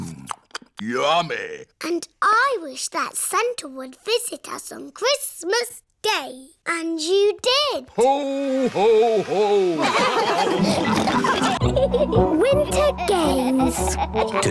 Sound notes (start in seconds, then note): 9.5 all laugh; 9.7 giggling